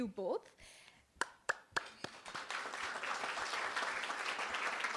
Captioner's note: applause